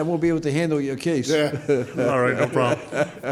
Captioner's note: laughs